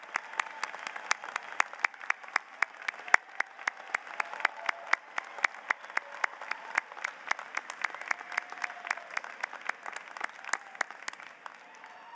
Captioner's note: applause